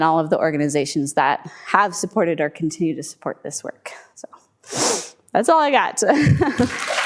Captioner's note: clapping